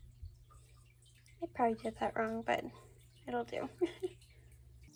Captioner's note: laughter